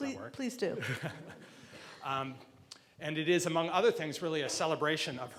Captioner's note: laughs